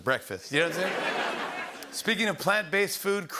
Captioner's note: laughter